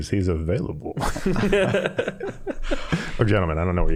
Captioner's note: all laughing